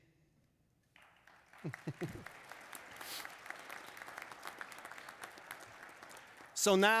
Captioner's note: applause